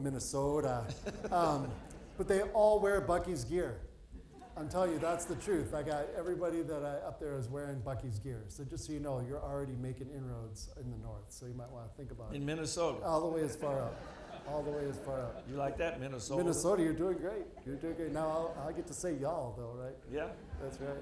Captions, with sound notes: - Minnesota, but they all wear Buc-ee's gear. I'll tell you that's the truth. I got everybody that I up there is wearing Buc-ee's gear. So just so you know, you're already making inroads in the North. So you might want to think about it. - In Minnesota? - All the way as far up, all the way as far up. (audience laughing) - You like that Minnesota. - Minnesota you're doing great. You're doing great. Now I'll I'll get to say you all though, right? - Yeah.